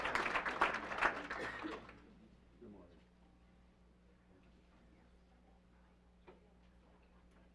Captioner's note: applause